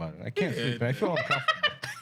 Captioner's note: laughing